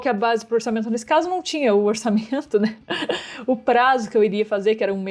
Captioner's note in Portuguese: risos